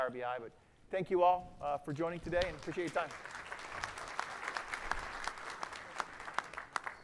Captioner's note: applause